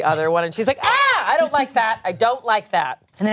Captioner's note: yells